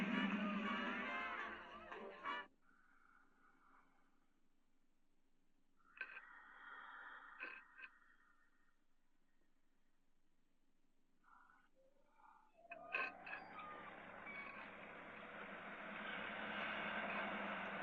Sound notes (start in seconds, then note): 2.3 eerie whispers echoing; 5.8 stone scraping; 12.7 stone scraping; 14.6 car approaching